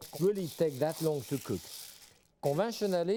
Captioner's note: beans rustling